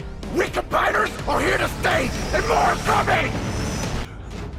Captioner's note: screeching